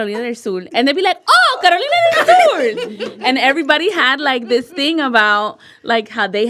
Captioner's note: Spanish; Spanish